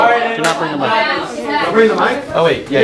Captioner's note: talking